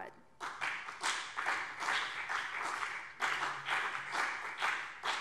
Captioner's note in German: Beifall BÜNDNIS 90/DIE GRÜNEN und CDU